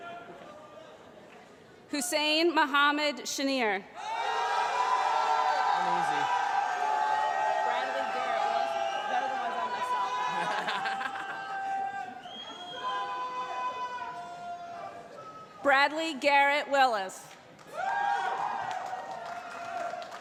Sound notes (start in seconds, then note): 4.5 loud cheering; 17.6 cheering